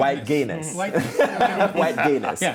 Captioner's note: laughing